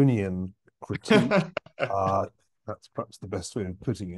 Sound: laugh

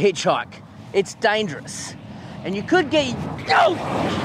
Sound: yells in shock

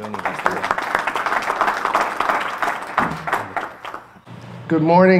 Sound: audience applause

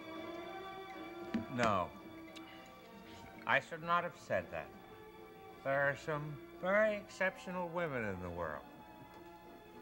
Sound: father, slurring

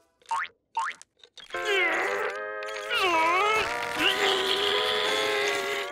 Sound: grunting

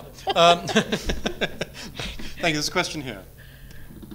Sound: laughs

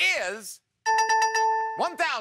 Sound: dings

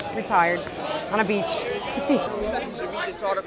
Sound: laughs

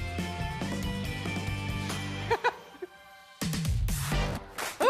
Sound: laughing

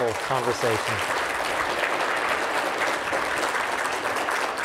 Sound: audience applauding

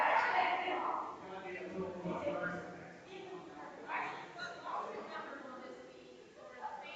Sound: people chattering distantly continues

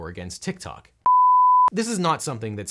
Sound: screen beeps

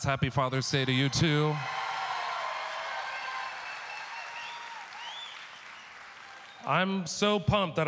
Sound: audience cheering

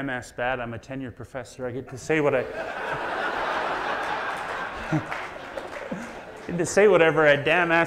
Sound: audience laughs

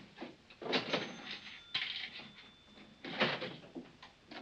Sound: register rings; coin clatters

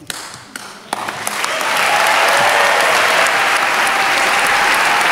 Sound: cheering, clapping

